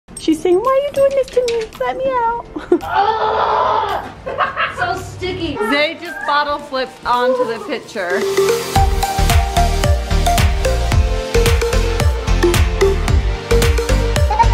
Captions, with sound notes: - She's saying "why are you doing this to me? Let me out." (child grunting) - So sticky. - Zade just bottle flipped onto the picture. (upbeat music playing)